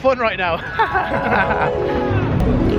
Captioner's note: both laugh